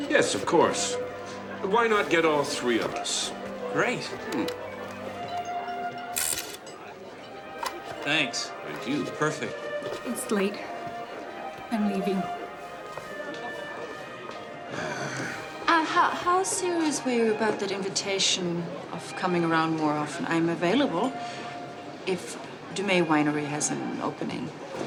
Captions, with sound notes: - Yes, of course, but why not get all three of us? - Great. (camera shutters) Thanks. - Thank you. - Perfect. - It's late, I'm leaving. - Ah. - And how soon, as we were about, that invitation of coming around more often? I'm available, if Dumay Winery has an opening.